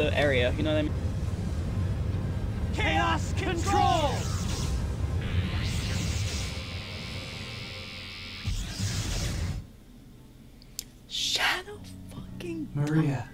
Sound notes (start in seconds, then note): 0.3 suspenseful music; 5.0 sci-fi warping; 10.7 whispers